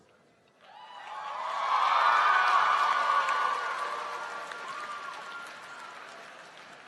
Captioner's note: applause